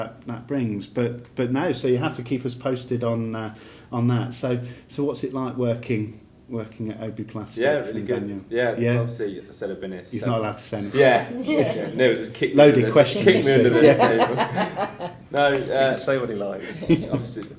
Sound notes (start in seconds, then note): 13.2 laughing